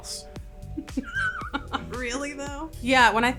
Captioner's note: Sara laughs